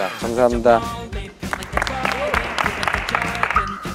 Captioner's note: clapping